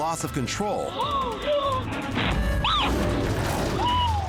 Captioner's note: women gasp, scream